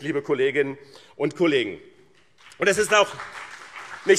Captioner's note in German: Beifall BÜNDNIS 90/DIE GRÜNEN und CDU